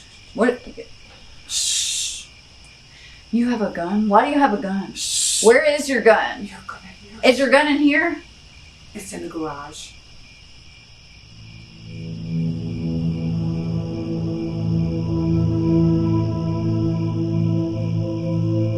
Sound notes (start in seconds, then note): 0.2 crickets; 10.1 crickets, eerie music